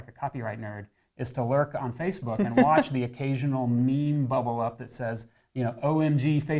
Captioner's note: laughs